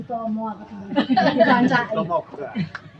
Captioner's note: laughing